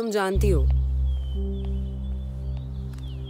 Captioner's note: Birds chirping; Footsteps